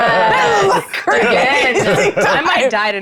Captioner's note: laughing